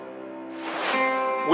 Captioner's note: air whooshing